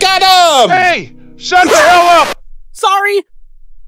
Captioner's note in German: schreit